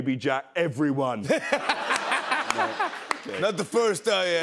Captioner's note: laughter